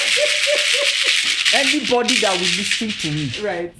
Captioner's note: both laugh